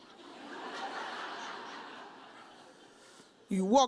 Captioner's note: audience laughs